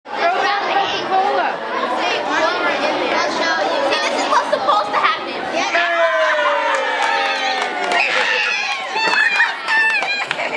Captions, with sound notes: Put them in the Coca Cola See this is what's supposed to happen. [ CHEERING AND CLAPPING ]